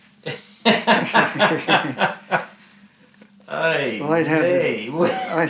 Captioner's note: laughs